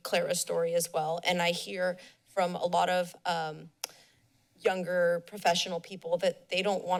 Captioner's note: lip smack